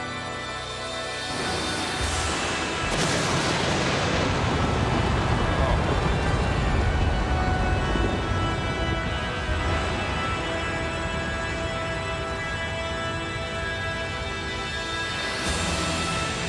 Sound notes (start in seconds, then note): 3.4 creepy music continues; 3.4 fire blasts